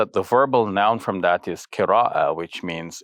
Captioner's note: speak Arabic